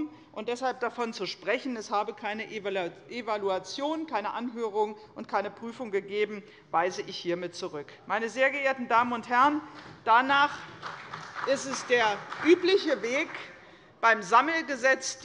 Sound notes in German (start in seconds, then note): 8.0 Beifall bei der CDU und bei Abgeordneten des BÜNDNISSES 90/DIE GRÜNEN